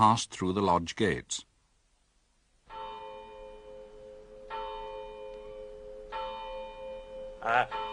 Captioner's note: bell ringing